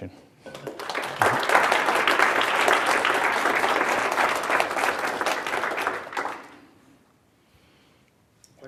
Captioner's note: applause